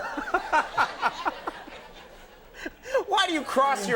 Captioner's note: Conan and audience laughing